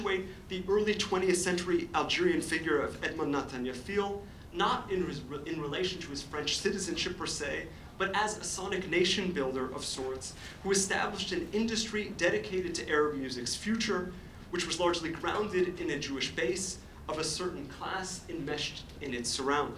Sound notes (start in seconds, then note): none